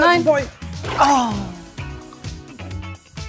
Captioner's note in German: Pflatsch